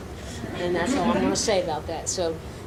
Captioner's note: audience laughing